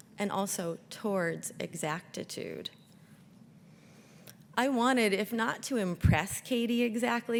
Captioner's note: none